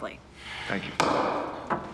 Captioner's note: gavel bangs